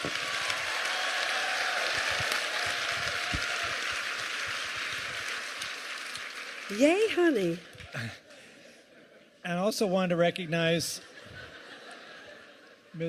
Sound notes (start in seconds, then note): 2.8 cheers and applause